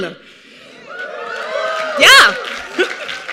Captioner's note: cheering